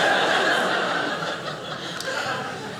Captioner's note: audience laughing